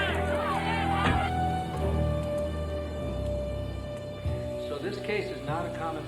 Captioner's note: door clicks; dramatic music continues; door thuds